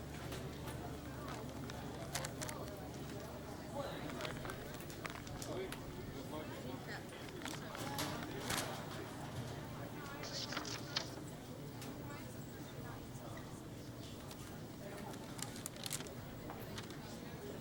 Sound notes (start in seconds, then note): 1.9 wrapper crinkling